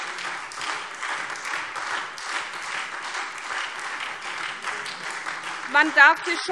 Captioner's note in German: Beifall SPD